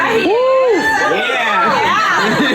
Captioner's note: all cheering